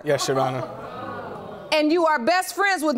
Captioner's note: audience gasps